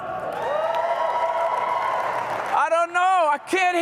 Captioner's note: cheering